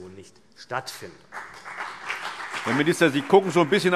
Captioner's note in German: Beifall CDU und BÜNDNIS 90/DIE GRÜNEN